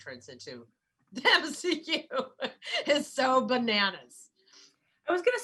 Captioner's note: laughing